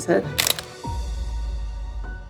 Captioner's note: background music; camera clicking sound effect